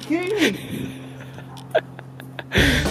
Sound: laughing

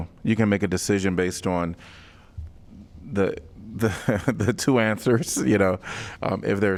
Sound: laughter

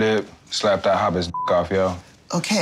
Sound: beep

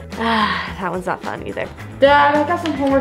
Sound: sighs

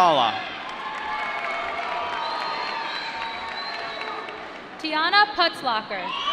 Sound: applause

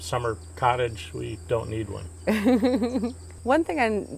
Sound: laughs

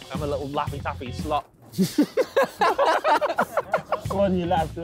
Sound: all laughing

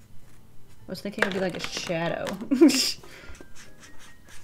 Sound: chuckles

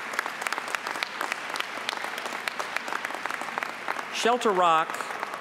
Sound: applause

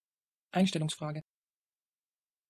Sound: fast Pronunciation

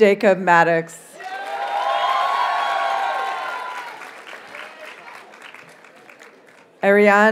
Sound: audience cheers and applauds

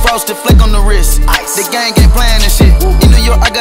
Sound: woo, woo

